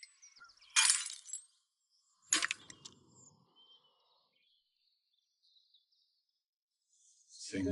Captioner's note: glass breaking